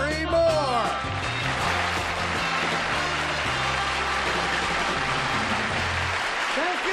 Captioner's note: applause